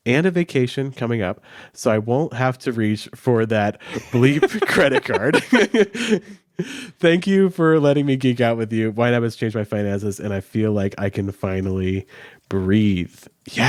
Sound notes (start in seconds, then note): 5.6 laughs